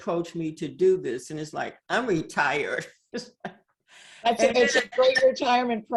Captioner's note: laughs